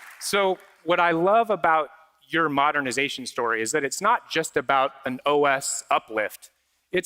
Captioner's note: applause